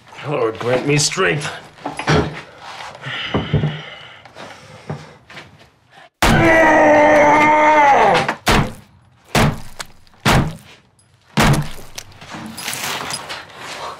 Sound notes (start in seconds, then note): 6.2 intense groan; 9.3 chop, chop, chop, chop